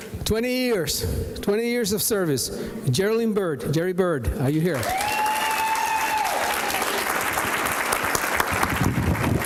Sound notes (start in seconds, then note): 4.8 audience cheering; 7.1 applause